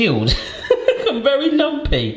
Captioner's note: laughing